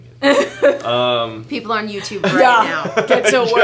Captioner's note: laughs